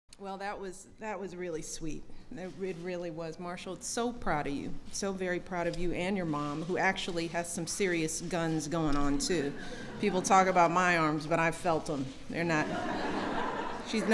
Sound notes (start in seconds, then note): 9.6 laughter; 12.6 laughter